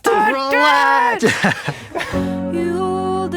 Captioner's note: laughing